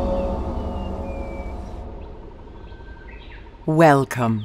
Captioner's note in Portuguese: pássaros cantando